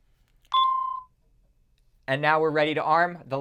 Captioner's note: beeps